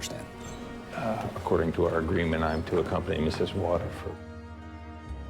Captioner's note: voiceover